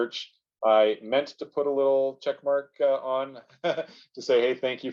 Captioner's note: laughing